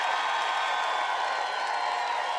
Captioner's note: applause